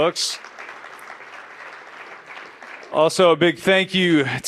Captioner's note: applause